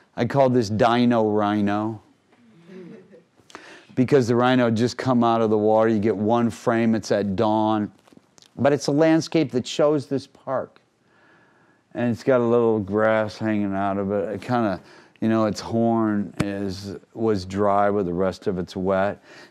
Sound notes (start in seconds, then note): 2.7 crowd laughing